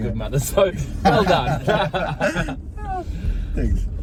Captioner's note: men laughing